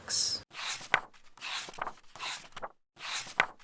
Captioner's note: pages turning